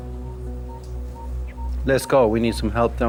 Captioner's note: cardiac monitor beeping